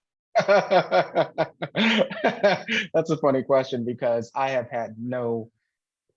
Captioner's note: laughs